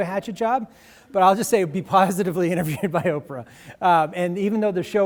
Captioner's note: laughs